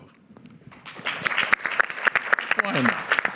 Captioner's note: applause